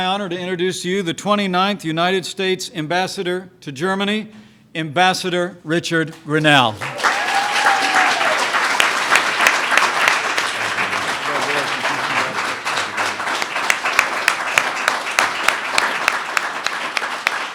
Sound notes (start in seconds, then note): 6.7 applause